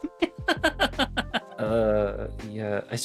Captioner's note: laughing